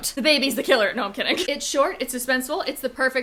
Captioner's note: laughing